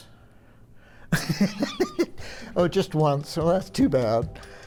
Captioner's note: laughing